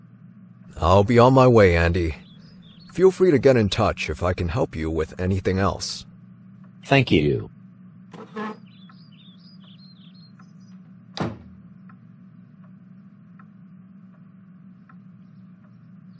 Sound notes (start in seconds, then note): 8.1 chair scrape; 11.1 door opens and closes